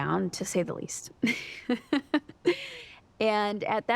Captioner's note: laughs